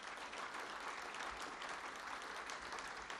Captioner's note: applause